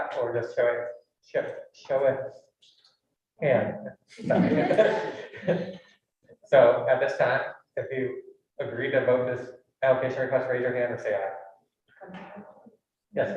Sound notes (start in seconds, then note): 4.2 all laughing